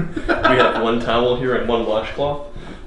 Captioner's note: laughs